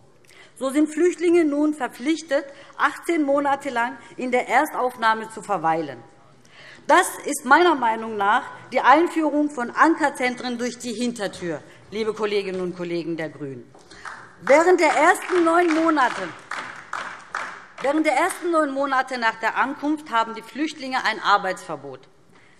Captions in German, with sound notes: So sind Flüchtlinge nun verpflichtet, 18 Monate lange in der Erstaufnahmeeinrichtung zu verweilen. Das ist meiner Meinung nach die Einführung von Ankerzentren durch die Hintertür, liebe Kolleginnen und Kollegen der GRÜNEN. (Beifall DIE LINKE) Während der ersten neun Monate nach der Ankunft haben die Flüchtlinge ein Arbeitsverbot.